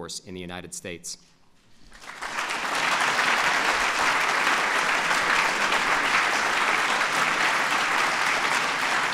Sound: applause

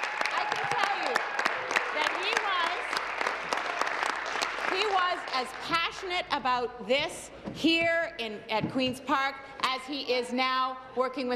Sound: applause

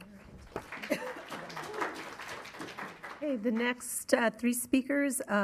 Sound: attendees clapping

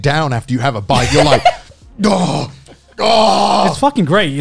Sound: laughing

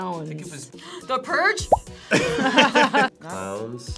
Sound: both laughing nervously

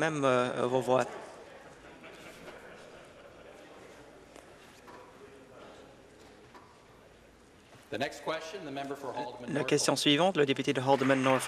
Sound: laughter

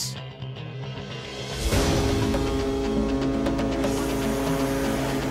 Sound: ship horn blaring; dramatic music

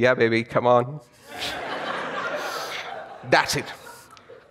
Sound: audience laughs

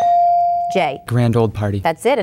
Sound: bell dinging

